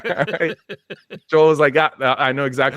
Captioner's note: both laughing